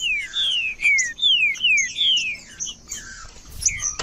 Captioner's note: trinca ferro cantando